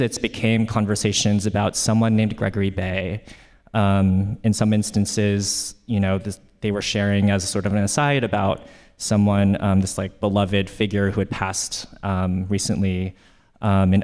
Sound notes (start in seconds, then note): none